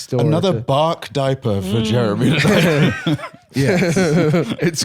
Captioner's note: laughs